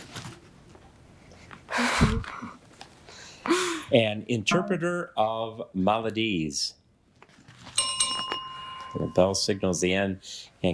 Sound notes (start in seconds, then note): 1.7 chuckles; 7.7 bell rings